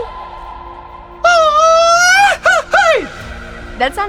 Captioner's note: does the grito